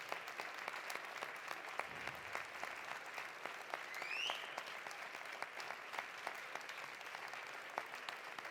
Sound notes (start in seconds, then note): 0.0 applause continues; 1.1 cheering continues